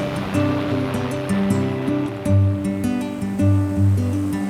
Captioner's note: drone whirring